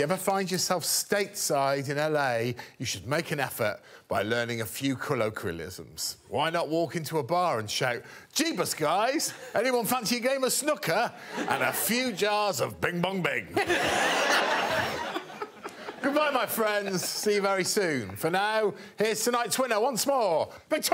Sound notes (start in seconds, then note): 16.2 all laughing